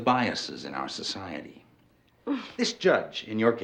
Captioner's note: sighs